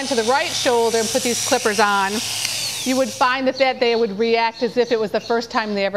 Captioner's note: clippers stop buzzing